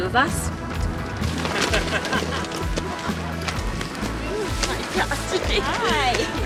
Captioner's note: laughing